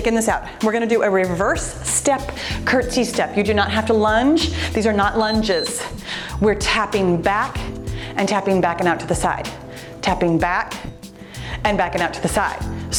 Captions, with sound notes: Okay, just shaking this out. We're going to do a reverse step curtsy step. You do not have to lunge, these are not lunges. (timer beeps) We're tapping back and tapping back and out to the side, tapping back and backing up to the side.